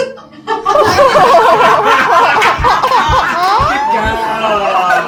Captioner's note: group laughing